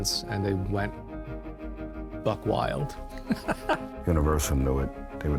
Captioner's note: laughs